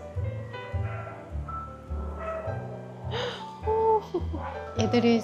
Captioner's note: sniff sniff